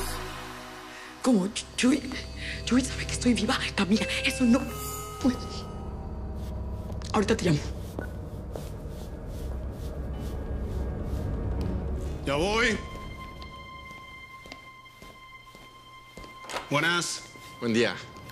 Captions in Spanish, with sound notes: - ¿Cómo? ¿Chuy... Chuy sabe que estoy viva, Camila? Eso no puede... [Suena el timbre] Ahorita te llamo. - Ya voy. - Buenas. - Buen día.